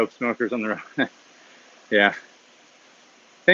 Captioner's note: chuckles